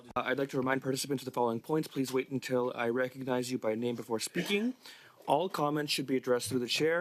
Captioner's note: speaking French